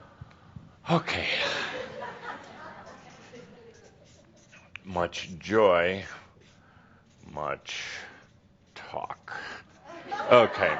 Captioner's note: he sighs and writes on the board